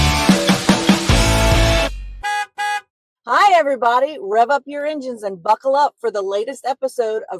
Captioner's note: upbeat music; horn honking